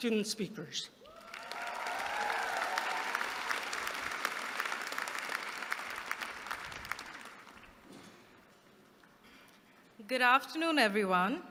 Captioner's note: applause